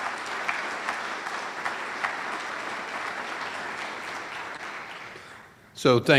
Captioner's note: audience applauds